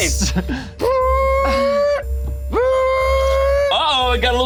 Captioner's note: imitates alarm